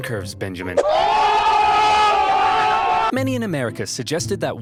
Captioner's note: crowd laughing